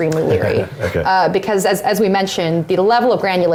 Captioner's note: laugh